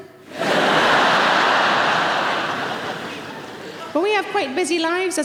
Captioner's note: audience laughing